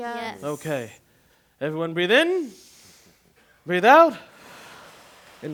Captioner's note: exhale; inhale